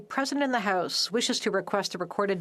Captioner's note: speaking French